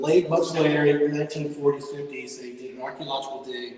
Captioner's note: echoing audio